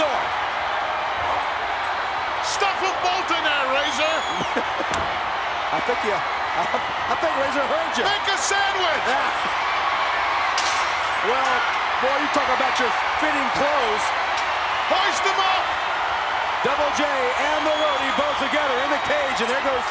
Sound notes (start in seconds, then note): 4.4 laughs; 10.4 metal clanging